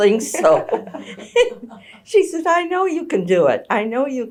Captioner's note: laughter